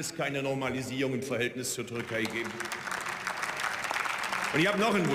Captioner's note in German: Beifall